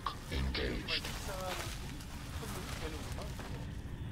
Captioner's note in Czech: Rozhovor v korejštině pokračuje